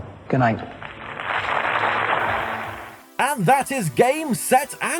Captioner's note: audience Applauding